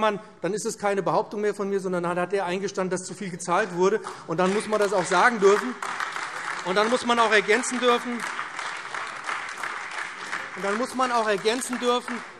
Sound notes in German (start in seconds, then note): 6.5 Beifall BÜNDNIS 90/DIE GRÜNEN, CDU und vereinzelt AfD